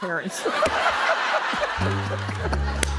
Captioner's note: laughter; sad tuba plays